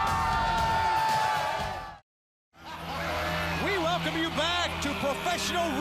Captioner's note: crowd cheering